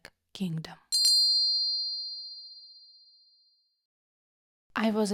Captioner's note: sound of bells